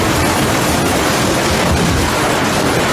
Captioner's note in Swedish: Orkanljud